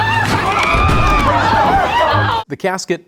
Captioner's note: casket crashing; mourners screaming; mourners yelling